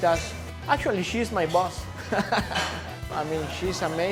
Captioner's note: laughing